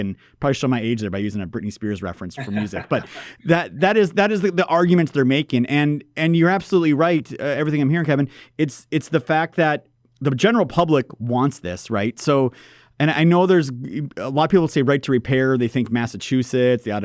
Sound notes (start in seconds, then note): 2.3 laughs